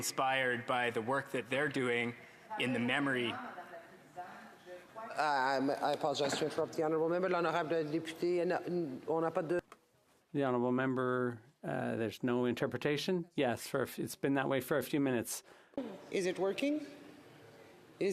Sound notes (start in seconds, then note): 10.3 speaking FRENCH